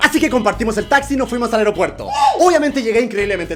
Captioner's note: cheerful scream